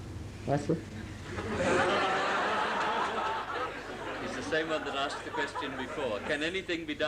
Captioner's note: laughter